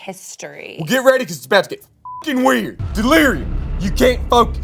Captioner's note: beep